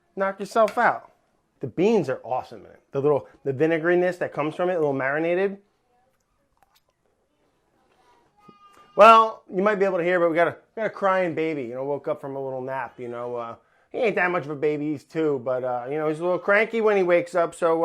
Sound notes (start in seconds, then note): 8.3 baby crying